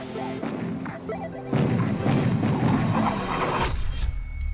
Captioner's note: bombs exploding